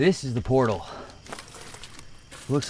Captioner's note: insects chittering; footsteps crunching